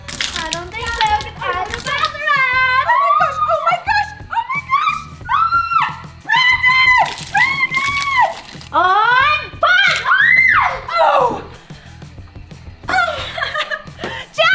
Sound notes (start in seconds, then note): 0.0 milk splattering; 2.9 squeals; 5.6 screams; 9.9 squeals; 12.9 laughs